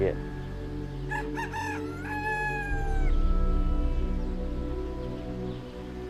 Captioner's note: rooster crows